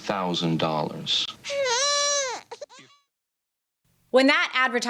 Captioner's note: baby cries